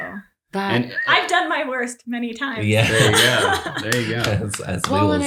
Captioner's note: laughs; claps